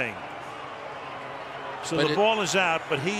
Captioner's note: pa announcement